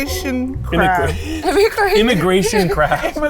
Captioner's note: chuckles